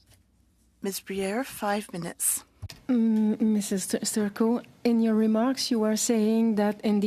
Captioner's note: speaking French